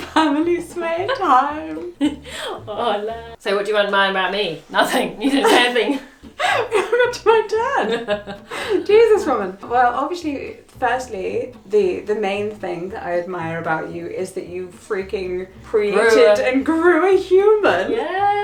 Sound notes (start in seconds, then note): 0.0 laughs; 4.7 laughs